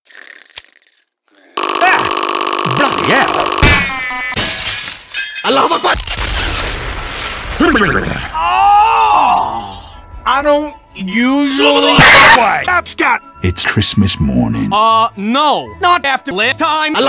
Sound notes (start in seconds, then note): 6.0 kaboom; 12.3 pow